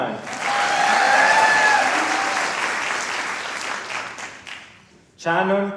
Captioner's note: applause